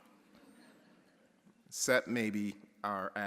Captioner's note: audience chuckles